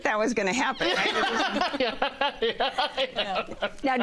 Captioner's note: laughter